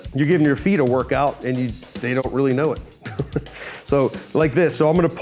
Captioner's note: chuckles